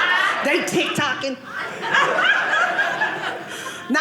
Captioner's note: audience laughing